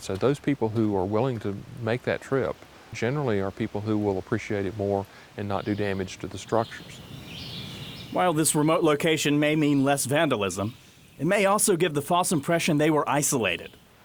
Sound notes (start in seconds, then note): 7.0 birds chirping